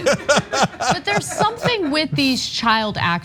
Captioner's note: laugh